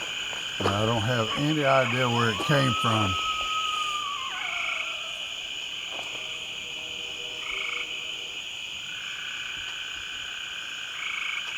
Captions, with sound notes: I don't have any idea where it came from. (animal bellowing) (insects chirping)